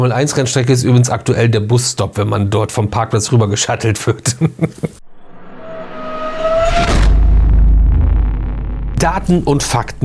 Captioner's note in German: gelächter